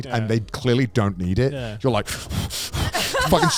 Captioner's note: hosts laugh